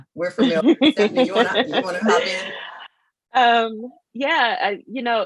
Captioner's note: laughing